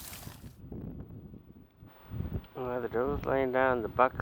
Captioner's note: rustling sounds; wind blowing